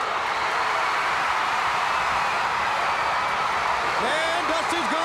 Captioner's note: audience roaring